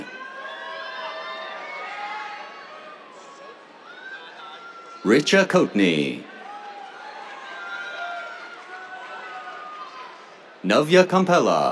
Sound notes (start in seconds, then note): 0.3 cheers; 6.0 cheers, applause